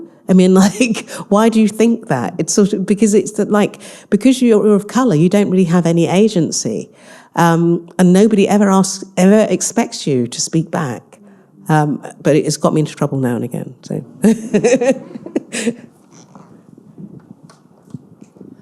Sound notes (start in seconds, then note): 14.2 all laughing